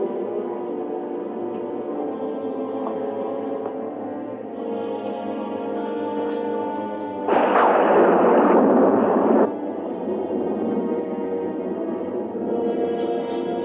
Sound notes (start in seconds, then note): 7.3 thunder crashing